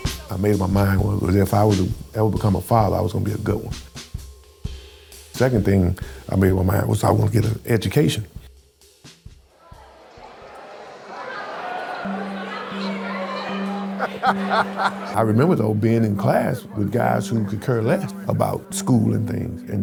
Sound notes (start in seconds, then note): 11.2 students chattering; 13.9 laughs